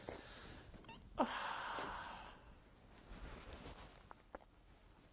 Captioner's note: crying